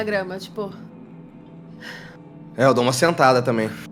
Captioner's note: sigh